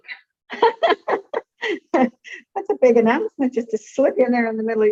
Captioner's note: laughs